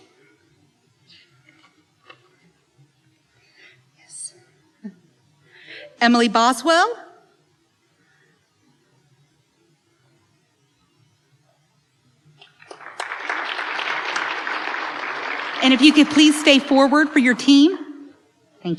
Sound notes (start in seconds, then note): 12.5 applause